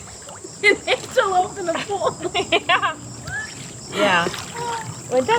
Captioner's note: laughing